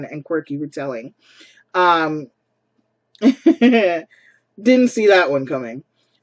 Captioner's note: chuckles